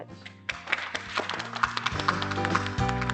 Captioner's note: applause; upbeat music